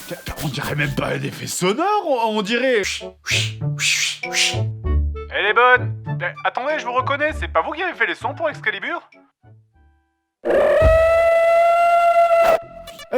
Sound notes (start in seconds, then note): 2.8 whip noise made by mouth